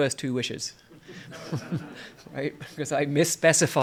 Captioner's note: laughter